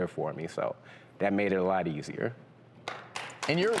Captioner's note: audience applauds